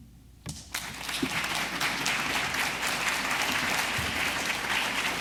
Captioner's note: audience applause